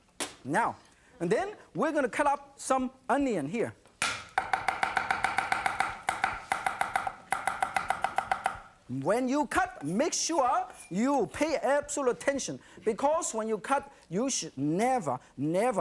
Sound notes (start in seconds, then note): 4.0 knife chopping